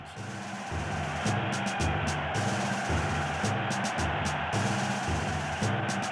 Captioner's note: cheering; martial music